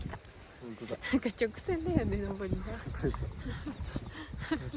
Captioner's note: laughs